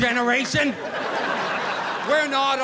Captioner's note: audience laughing